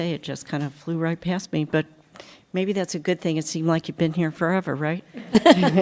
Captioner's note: laughter